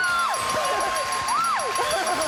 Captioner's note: dinging; applause